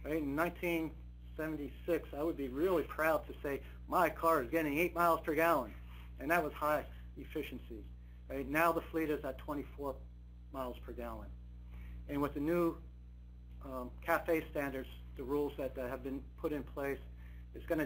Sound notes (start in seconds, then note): none